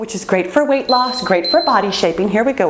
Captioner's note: timer beeps